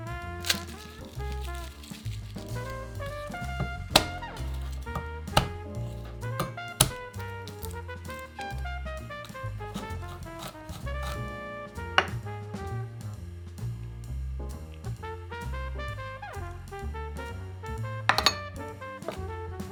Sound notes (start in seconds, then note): 0.3 garlic paper rustling; 3.9 knife smashing